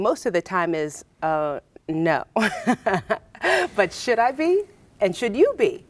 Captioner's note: laughs